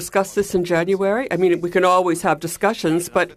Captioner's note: speaking French